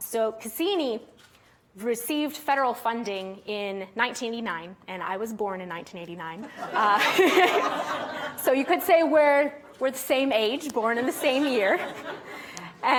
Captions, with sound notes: Cassini received federal funding in 1989, and I was born in 1989. (audience laughing) So you could say we're the same age, born in the same year.